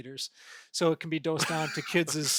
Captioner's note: chuckling